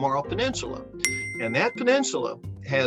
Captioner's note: bell dings